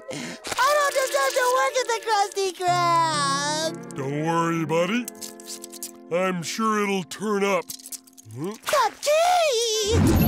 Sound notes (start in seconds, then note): none